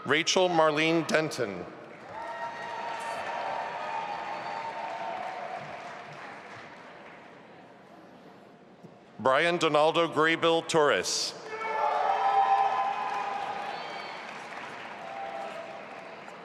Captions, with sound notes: Rachel Marlene Denton. (audience applauding) Bryan Donaldo Graybill-Torres. (audience applauding and cheering)